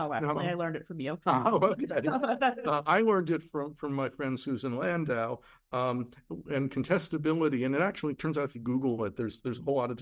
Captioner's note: laughs